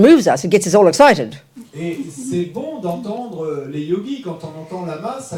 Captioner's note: French